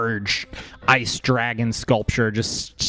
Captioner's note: none